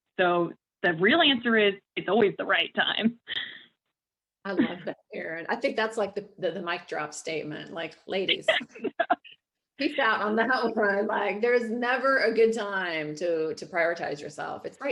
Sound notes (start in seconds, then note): 8.3 laughing